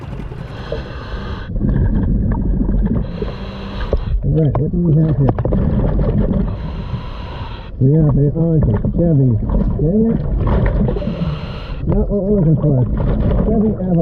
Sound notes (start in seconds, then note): 0.0 breaths gurgling